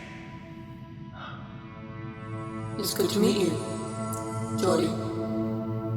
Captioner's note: sighs